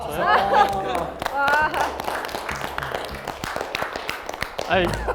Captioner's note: clapping